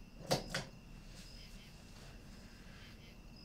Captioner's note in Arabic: نقرات المصباح